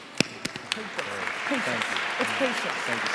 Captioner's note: applauding